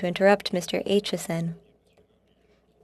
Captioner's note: speaking french